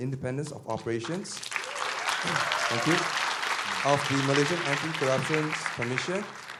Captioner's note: applause